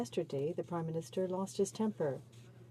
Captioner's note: speaking French